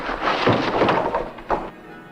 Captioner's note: door slamming